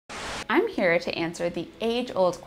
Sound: static clearing

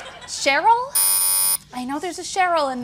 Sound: laughter; buzzer

